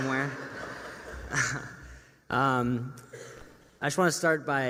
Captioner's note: laughter